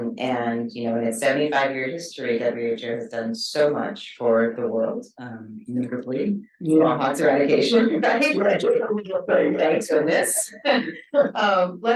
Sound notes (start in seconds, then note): 5.5 speaking faintly; 10.6 both chuckle